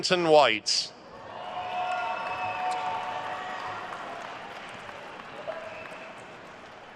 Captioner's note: attendees cheering and applauding